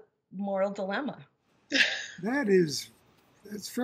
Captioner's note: laughs